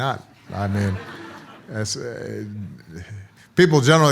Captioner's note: audience laughs